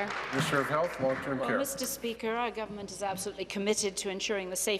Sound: applause

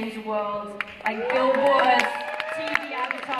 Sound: applause

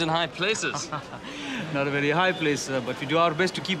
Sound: laughs

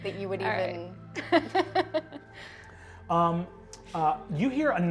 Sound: laughs

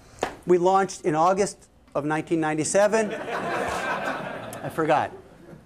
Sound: laughter

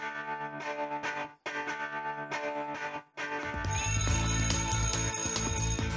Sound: bell ringing

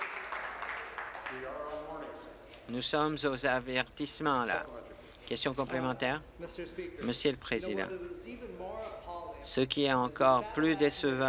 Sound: applause

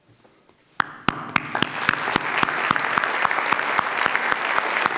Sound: claps; audience applauds

